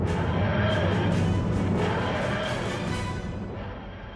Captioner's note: whooshing